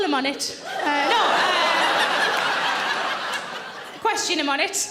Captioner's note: audience laughing